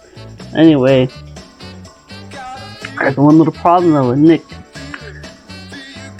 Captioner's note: sigh